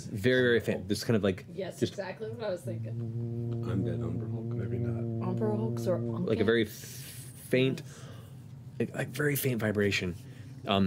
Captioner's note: low humming